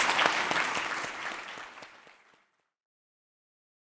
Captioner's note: audience clapping